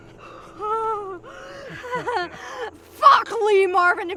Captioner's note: Nyah moaning and gasping